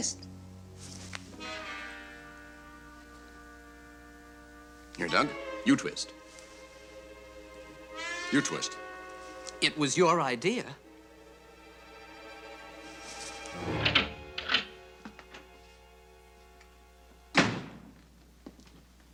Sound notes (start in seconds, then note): 15.0 door opens